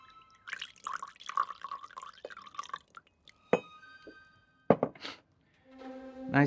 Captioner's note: liquid pouring; glasses clinking